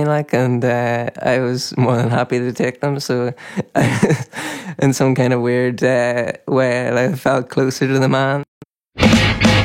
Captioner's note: laughs